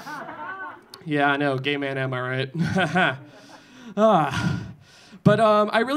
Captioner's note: audience laughing; laughing